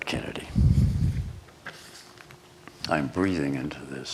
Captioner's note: breathes on microphone